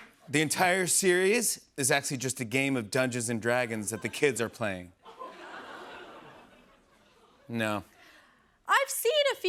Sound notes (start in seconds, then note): 4.9 light laughter